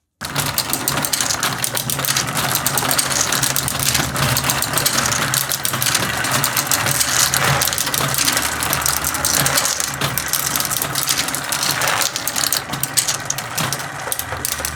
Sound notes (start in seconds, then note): 0.8 machine noises